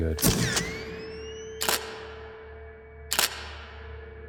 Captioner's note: camera shuttering